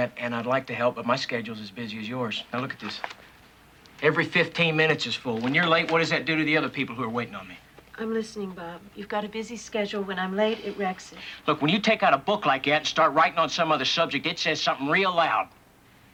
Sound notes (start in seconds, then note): none